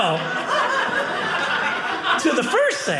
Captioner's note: audience laughing